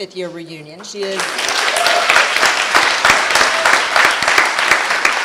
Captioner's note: applause